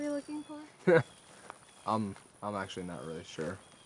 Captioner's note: David chuckles